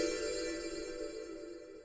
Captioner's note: chimes